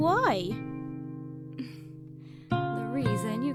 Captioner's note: sighs